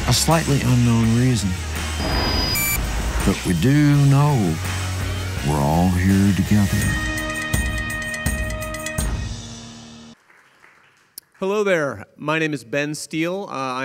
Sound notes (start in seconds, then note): 1.8 electronic reverberations; 3.0 upbeat rock music; 10.1 audience applauding